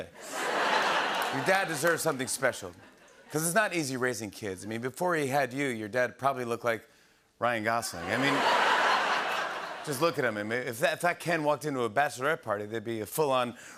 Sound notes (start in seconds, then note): 0.2 laughter and applause; 8.0 laughter and applause